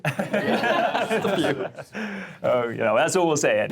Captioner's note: group laughing